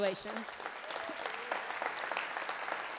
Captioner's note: applause